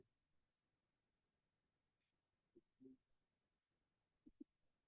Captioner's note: audio cuts out